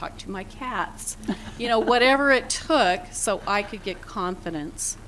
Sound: laughter

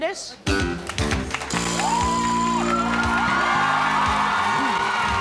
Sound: applauding and cheering

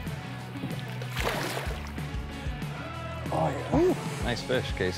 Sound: water splashing

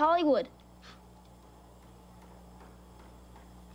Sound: gasps

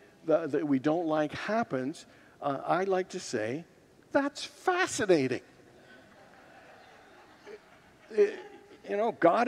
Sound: congregants laugh

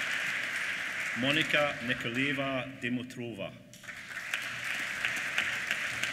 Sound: applause

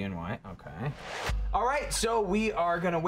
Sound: whoosh

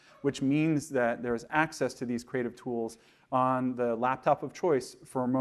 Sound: none

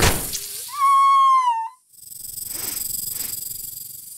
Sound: the painful scream; mice squeeking

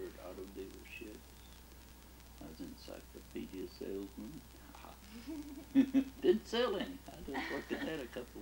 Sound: laughs

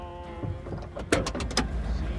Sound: door opens

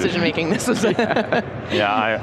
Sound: all laughing

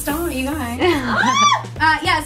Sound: laughing

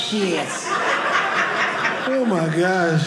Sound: audience laughing

